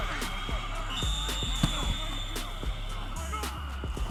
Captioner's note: whistle blowing